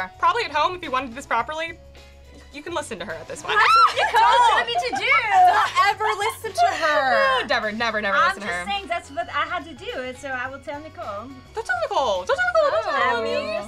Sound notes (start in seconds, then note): 3.5 screams; 6.9 laughing